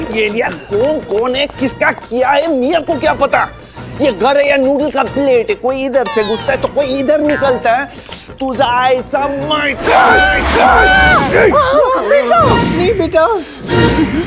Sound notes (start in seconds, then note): 9.7 All startles